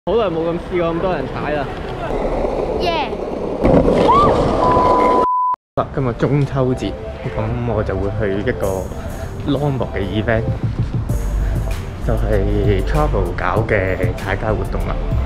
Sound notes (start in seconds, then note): 4.0 screaming